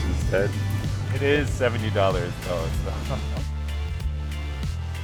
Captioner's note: chuckle; groovy music continues playing